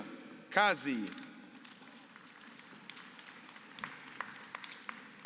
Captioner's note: applause